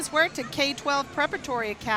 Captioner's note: crowd cheering